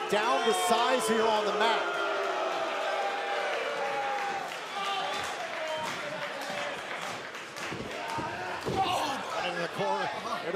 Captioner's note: crowd chatter